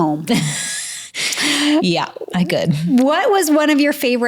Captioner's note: laughs